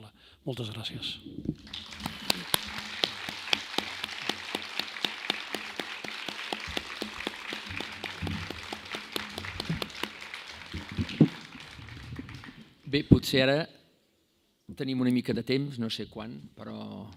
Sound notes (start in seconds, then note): 4.2 applause